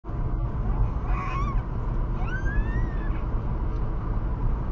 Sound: baby squeal

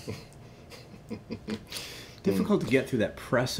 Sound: laughing

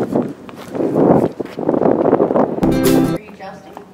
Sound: wind; more running footsteps

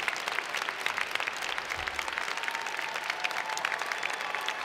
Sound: applause

